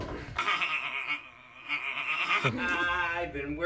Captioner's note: laughing